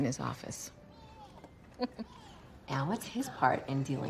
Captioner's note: laughs